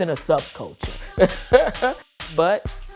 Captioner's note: laughing